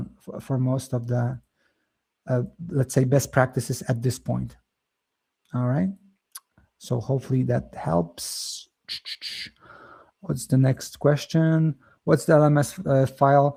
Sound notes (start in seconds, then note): 0.2 lips smack; 8.8 mouth clicking